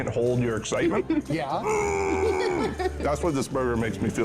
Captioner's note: excitement vocalization